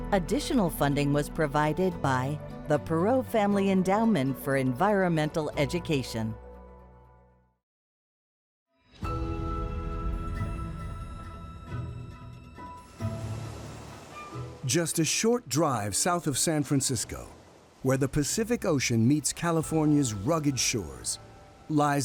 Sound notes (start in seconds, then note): 14.7 bright music; 14.7 water crashing